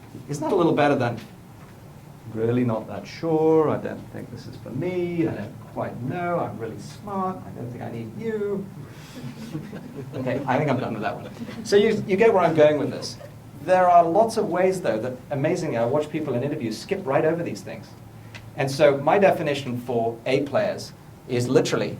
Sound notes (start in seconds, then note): 9.1 laughter